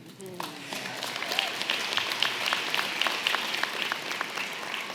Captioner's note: audience clapping and cheering